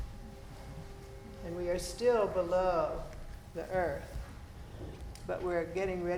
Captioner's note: horn blaring